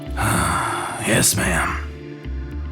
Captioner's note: sighs